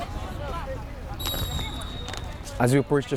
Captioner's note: whistle tweeting